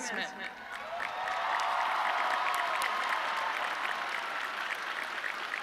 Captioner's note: audience cheering